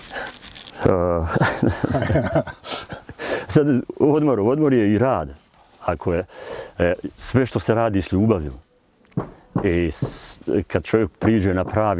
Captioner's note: laughter